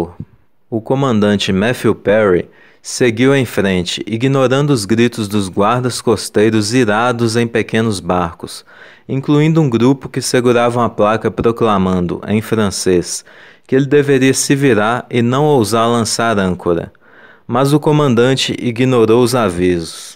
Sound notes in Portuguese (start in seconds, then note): 12.8 em francês